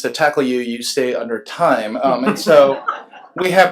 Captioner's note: laughs